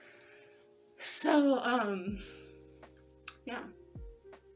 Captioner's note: lip smack